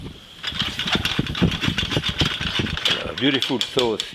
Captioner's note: pan rattling